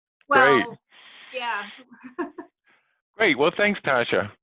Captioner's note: chuckles